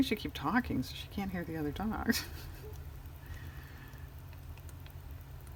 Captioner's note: laughs